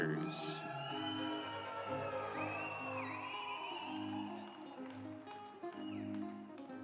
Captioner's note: audience cheering; instrumental music